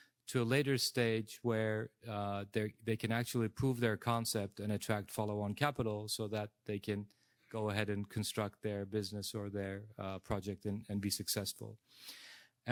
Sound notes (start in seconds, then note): none